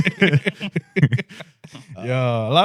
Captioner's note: laughing